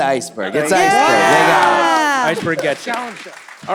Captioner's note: team shouts